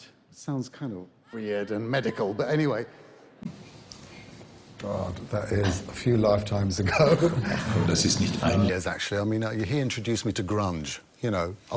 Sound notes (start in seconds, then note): 7.1 laughs